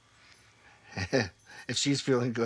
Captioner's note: chuckles